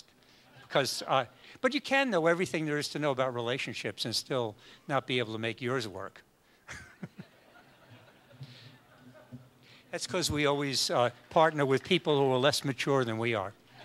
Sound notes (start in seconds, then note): 6.7 laughs